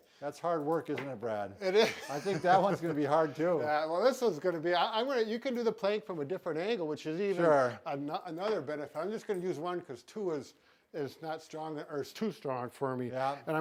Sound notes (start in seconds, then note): 1.7 laughs